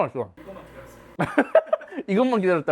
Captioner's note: ha ha ha